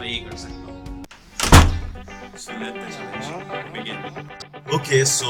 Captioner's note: door closes